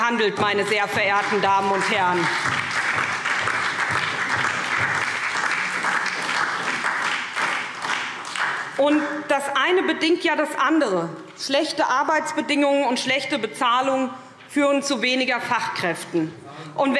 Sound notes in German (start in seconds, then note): 2.4 Beifall SPD und DIE LINKE